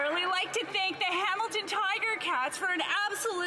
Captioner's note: some Applause